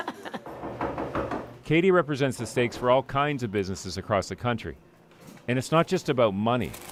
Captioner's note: laughter